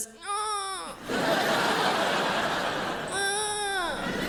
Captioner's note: crowd laughs